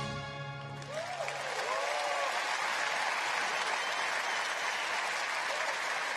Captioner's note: cheering and applause